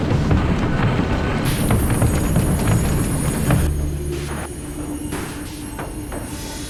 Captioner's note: train hits its brakes